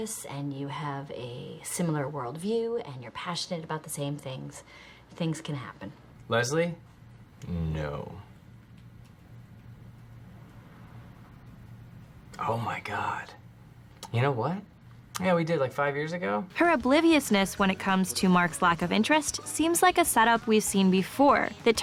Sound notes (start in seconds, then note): 7.9 long pause